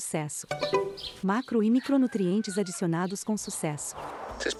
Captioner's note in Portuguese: Cacarejos